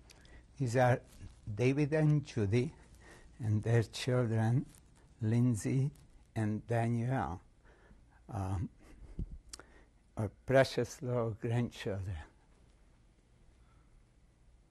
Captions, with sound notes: These are David and Judy and their children, Lindsay and Danielle, [PAUSES FOR 3 SECONDS] our precious little grandchildren.